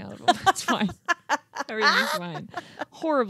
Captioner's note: laughing